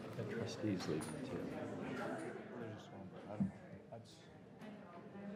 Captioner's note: board members chattering